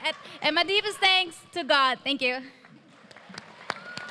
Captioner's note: applause